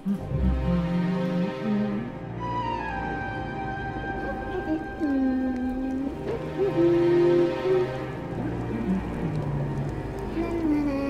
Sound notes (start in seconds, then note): 5.0 humming